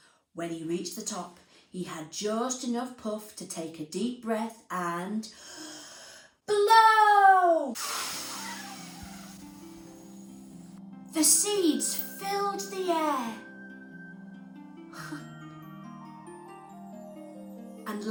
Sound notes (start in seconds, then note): 5.3 breath in; 7.7 air blowing out